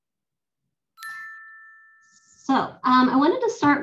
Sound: bell chimes

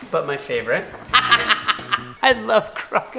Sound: laughs loudly

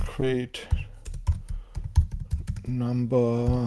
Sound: keyboard clacking

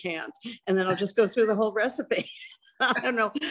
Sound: laughs

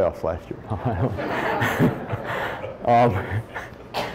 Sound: audience laughs

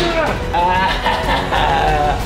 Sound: laughing in a "scary" manner

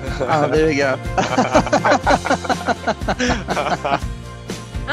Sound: more Laughter

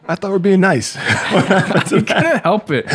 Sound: everyone laughs

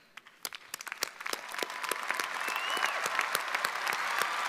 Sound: audience cheering

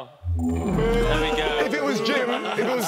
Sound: electronic music; shouting

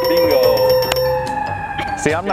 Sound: bell dinging

